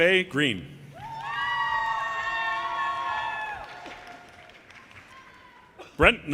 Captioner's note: audience cheers and applause